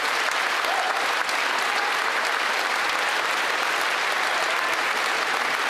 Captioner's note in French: applaudissements